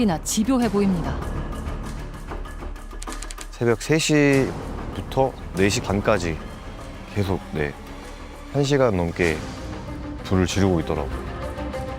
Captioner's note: voiceover